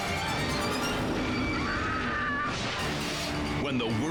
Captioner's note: mother screams